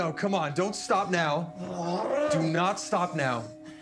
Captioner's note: Clive grunting